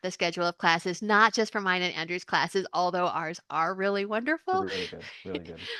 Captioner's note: laughs